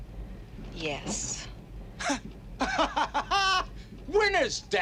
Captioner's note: laughs hysterically